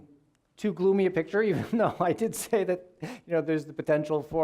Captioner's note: laughing